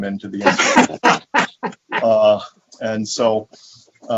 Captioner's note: laughing